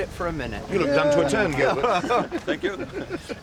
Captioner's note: group laughs